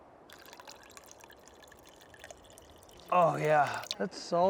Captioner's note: water pouring